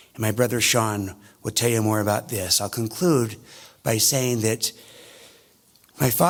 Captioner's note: none